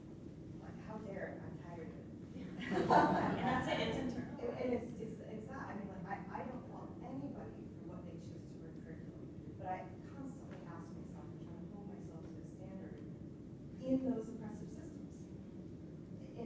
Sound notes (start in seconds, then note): 2.6 laughter